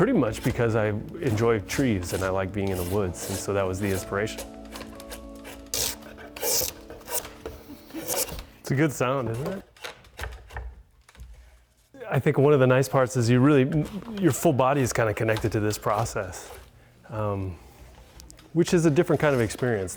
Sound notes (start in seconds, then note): 4.3 wood stripping